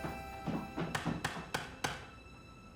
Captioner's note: knocking